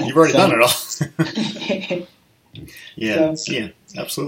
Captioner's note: laughing